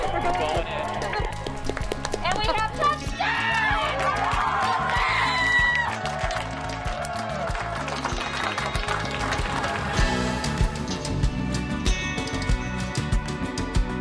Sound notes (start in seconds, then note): 3.2 applauding; 10.1 lively instrumental music